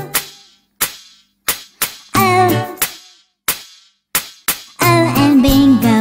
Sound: clap

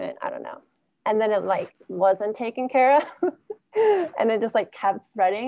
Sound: laughs

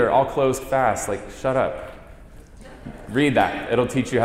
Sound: light laughter

